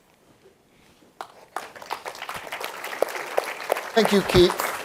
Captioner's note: applause